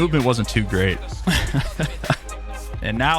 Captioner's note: laughs